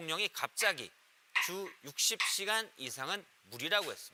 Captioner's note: YouTube sound